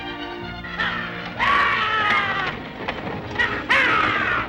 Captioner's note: soldiers shout